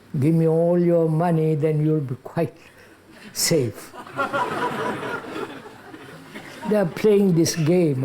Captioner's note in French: rires